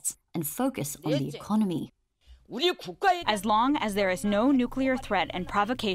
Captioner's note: through translator